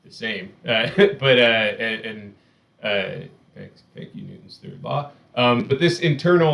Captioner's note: laughs